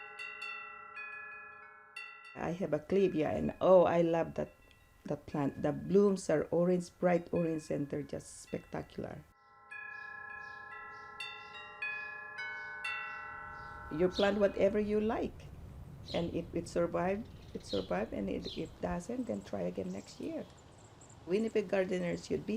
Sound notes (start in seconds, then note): 9.7 wind chimes ring